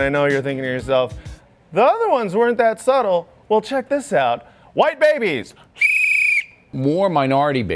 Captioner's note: whistle